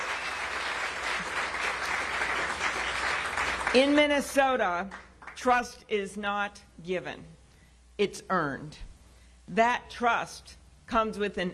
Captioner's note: cheers and applause